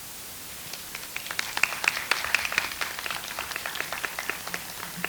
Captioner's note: audience applauds